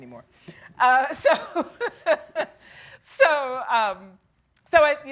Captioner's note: laughs